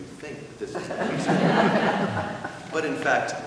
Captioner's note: laughing